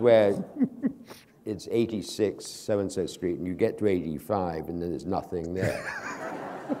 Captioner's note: laughter